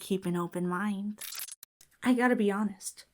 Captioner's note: audio glitches